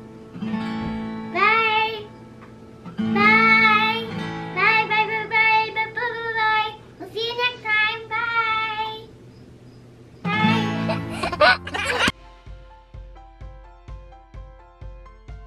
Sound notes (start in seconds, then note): 0.0 light guitar music; 10.2 light guitar music; 10.6 baby laughs; 12.3 light upbeat music